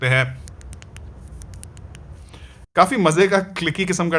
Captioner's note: clicking sounds